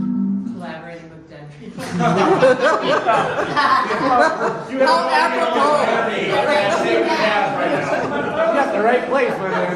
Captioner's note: laughter